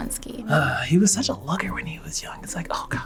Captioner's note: sighing